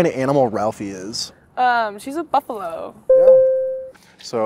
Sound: correct sound

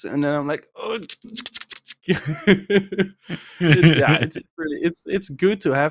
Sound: mimicking scribbling noises; laughs

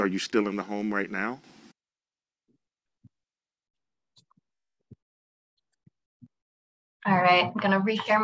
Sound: silence

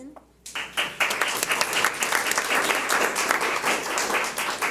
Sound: audience applauds

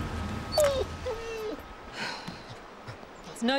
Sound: Prince whines

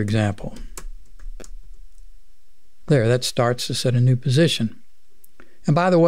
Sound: clicking

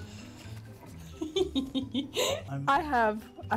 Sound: giggles

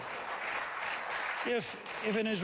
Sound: applause

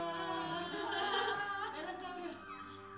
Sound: nervous laughter

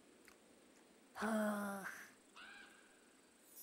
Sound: sighs

